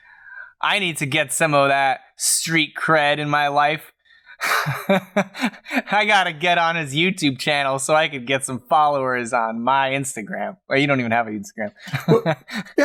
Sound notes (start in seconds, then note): 4.4 laughs; 11.8 laughs